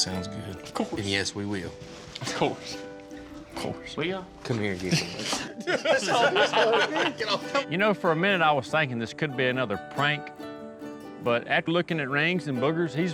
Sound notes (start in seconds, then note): 4.8 all laughing